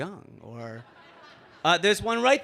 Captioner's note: audience laughing